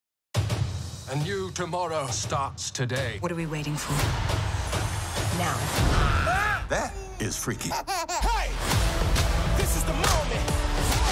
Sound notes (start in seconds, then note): 7.6 baby laughs